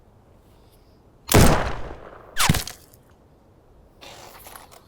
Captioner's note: gunshot banging